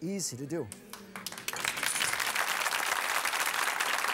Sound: audience applauds

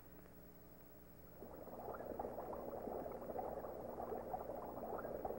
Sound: bubbling sounds

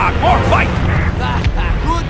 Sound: The Bf 109 F laughs

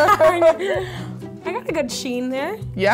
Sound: laughing

